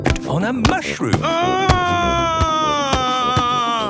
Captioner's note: shouting